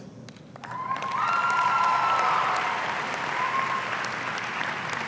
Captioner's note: audience cheering